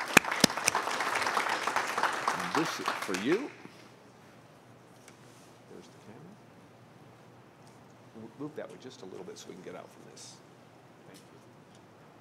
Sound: applause

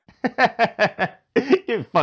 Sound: peaks the mic with judgemental laughter

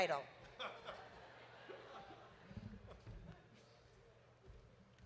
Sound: audience laughs

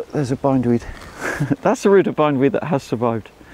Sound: chuckles

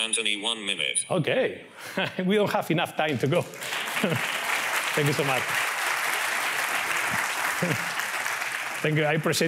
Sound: applause

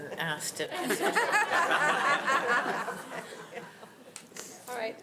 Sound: audience laughing

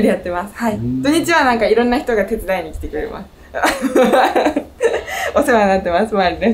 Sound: laughs

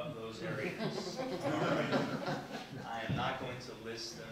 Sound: people laughing

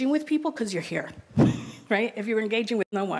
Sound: laughs

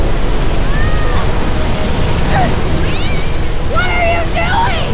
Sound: cat meows

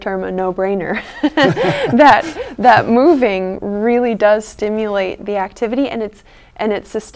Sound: chuckles

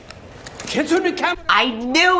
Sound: speaking Japanese

